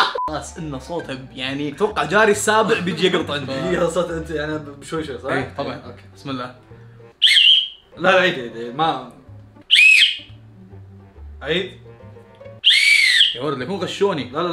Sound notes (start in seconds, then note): 9.6 whistles